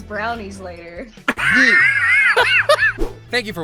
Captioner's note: wheezing